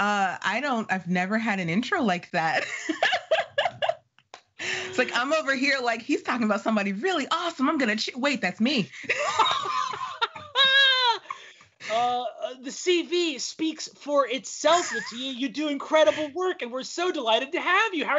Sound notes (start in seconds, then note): 2.5 laughing; 9.0 laughing